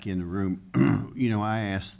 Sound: clears throat

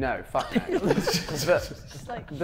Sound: Sidemen laughing

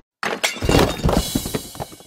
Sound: crashing sounds

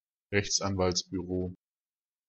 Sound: fast Pronunciation

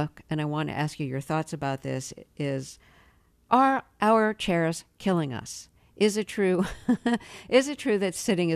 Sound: laughter

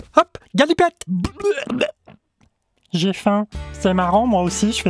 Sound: throws up

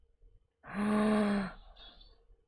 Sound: gasps

